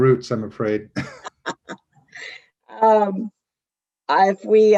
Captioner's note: chuckles